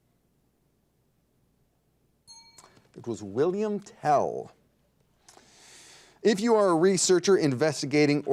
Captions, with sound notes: (bell dings) It was William Tell. If you are a researcher investigating